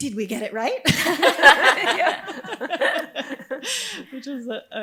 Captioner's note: audience laughing